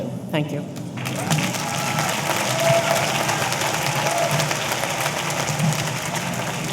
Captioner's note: audience applauding; audience cheering